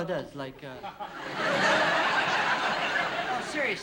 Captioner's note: laughter